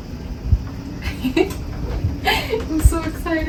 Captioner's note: laughs in excitement